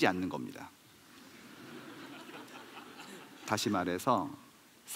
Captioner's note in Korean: 웃음